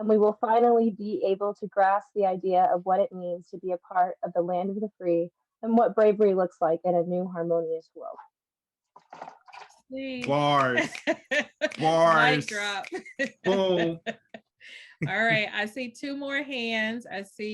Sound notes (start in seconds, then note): 10.2 applause; 12.8 laughs